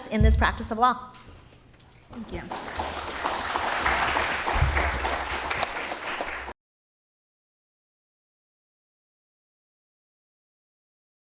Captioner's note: applause